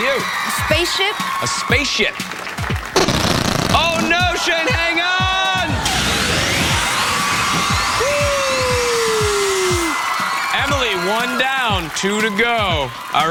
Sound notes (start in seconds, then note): 8.1 cheers and applause